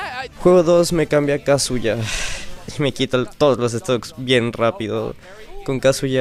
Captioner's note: sighs in MU inexperience